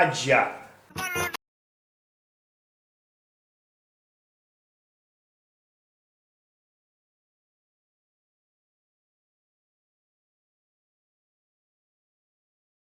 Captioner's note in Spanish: sin sonido